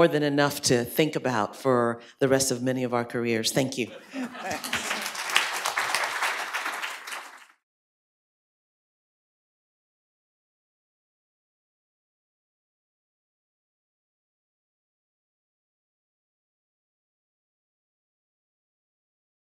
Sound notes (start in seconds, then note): 8.8 applause